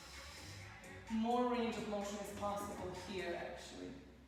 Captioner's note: breathes